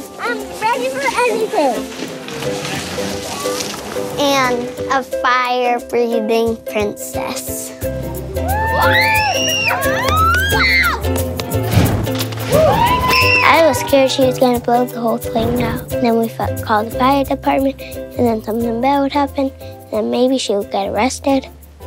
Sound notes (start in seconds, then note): 8.4 screaming, exclaiming; 11.5 whooshing